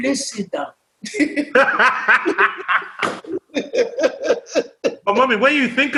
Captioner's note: laughter